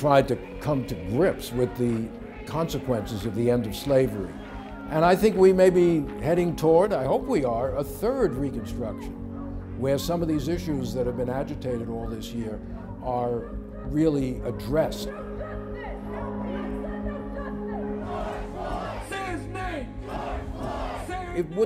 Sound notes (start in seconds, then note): 15.8 people chanting